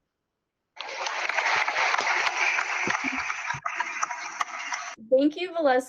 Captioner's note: applause